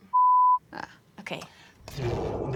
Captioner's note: beeping